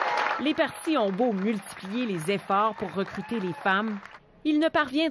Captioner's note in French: acclamations